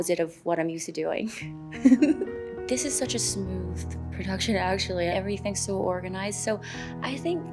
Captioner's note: laughs